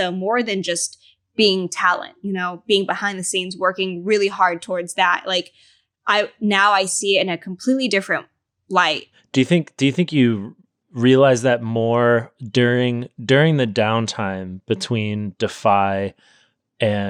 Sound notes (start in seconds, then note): none